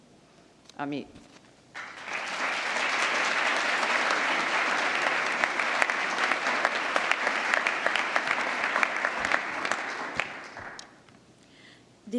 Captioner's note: applause